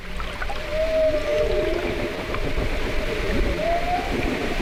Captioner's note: whale singing